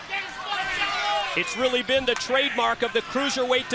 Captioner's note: crowd chatter